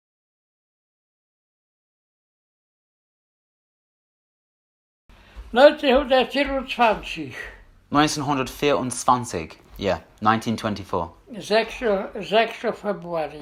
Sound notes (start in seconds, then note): 5.3 in German